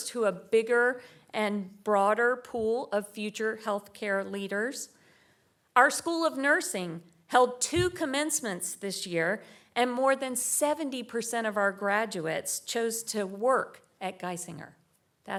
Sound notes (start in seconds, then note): none